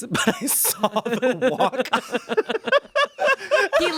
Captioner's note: everyone laughs